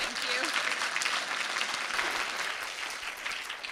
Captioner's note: applause